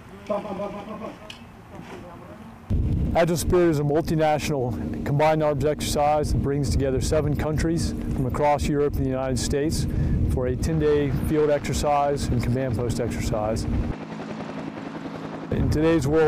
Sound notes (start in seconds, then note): 14.0 helicopter rotors